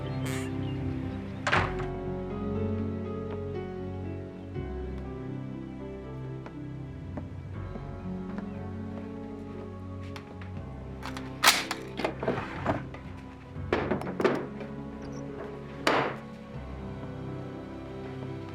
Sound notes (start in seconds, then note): 11.0 gun clicking; 15.5 drawer slamming